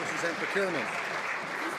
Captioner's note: some Applause